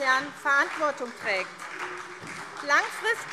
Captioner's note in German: Beifall SPD